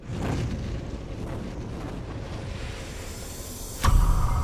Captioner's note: wind rushing